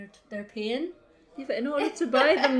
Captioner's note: laughs